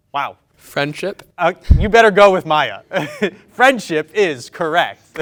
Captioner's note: laughs